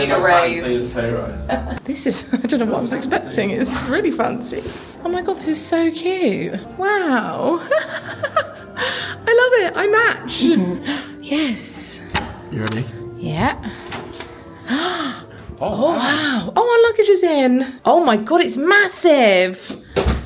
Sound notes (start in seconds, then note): 7.4 laughing; 12.1 door latch clicking; 13.6 gasping